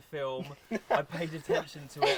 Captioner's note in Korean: 웃음